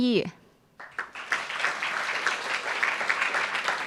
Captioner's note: applauds